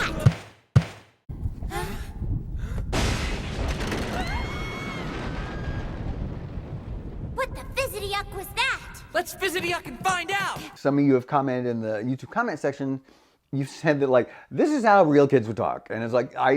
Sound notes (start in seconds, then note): 0.1 thunder, lightning; 1.8 kids scream